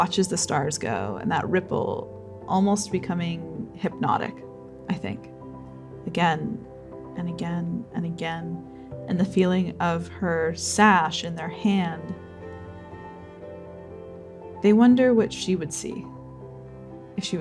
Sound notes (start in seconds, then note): none